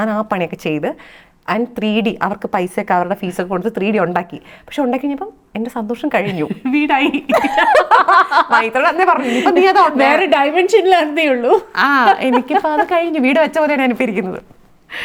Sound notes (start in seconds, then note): 7.3 both laughs